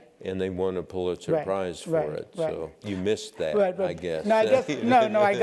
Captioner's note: laugh